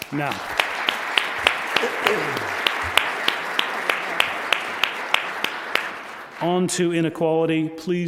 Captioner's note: applause